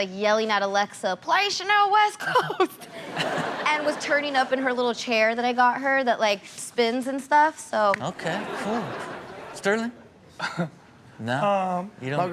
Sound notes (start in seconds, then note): 2.3 laughing; 8.1 audience laughing; 10.5 Sterling chuckling